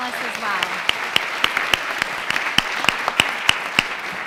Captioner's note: applause